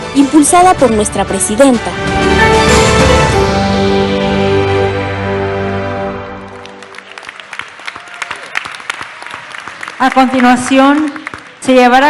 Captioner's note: applause